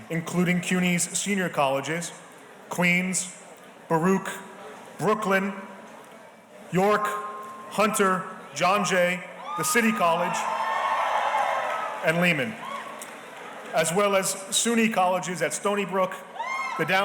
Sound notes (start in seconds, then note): 9.4 audience cheering